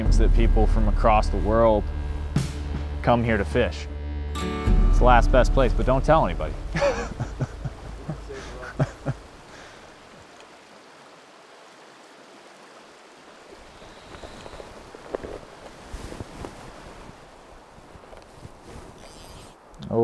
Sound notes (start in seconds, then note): 6.7 chuckles; 9.8 calm flowing water; 13.6 rustling of gear in pack; 19.0 fishing reel winding